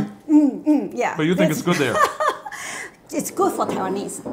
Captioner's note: laughs